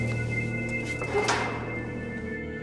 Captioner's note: door clangs